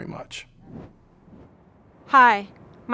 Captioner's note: air whooshing